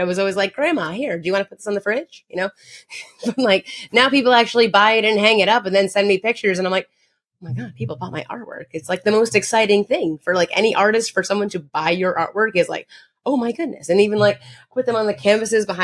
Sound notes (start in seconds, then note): 3.4 chuckles